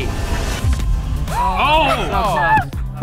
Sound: group gasping

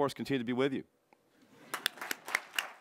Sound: applause

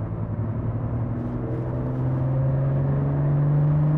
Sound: engine roars

